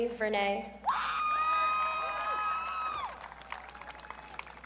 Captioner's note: audience cheering